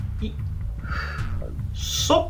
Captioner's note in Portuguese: sopro